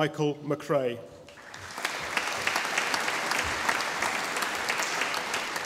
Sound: audience applauding

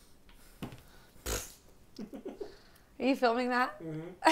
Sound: laughs

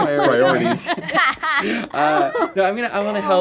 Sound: laughing

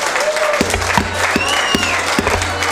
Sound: applause and boos

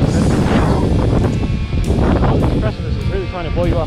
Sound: wind whooshing over talking

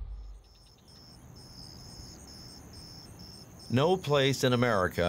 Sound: insects chirping

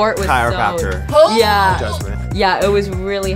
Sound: grunting

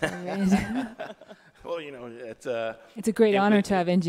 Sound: laughing

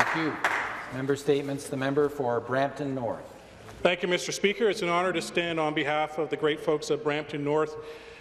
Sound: some Applause

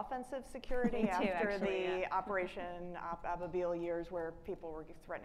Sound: faintly speaking

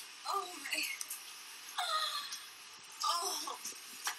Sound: porn Sounds

